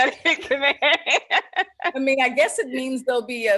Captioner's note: laughs